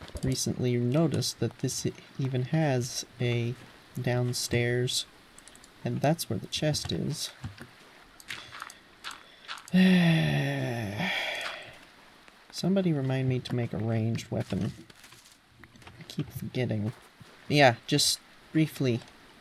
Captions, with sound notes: recently noticed that this even has a... downstairs and that's where the chest is *deep breath* *long, exasperated sigh* somebody remind me to make a ranged weapon... I keep forgetting but yeah, just briefly: